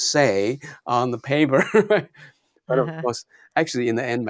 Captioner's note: laughs